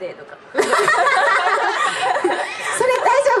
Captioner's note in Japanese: 爆笑